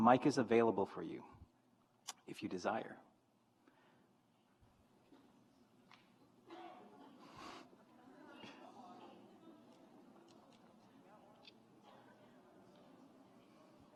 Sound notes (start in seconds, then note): 6.4 graduates chattering